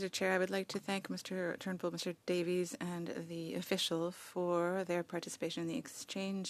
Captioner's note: speaking French